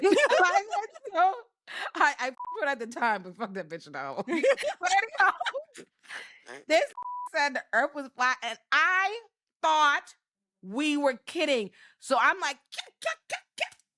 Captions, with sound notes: (laughing) I (beep) it at the time, but fuck that bitch now. (laughing) This (beep) said the earth was flat, and I thought we were kidding, so I'm like, "Kah, kah, kah, kah."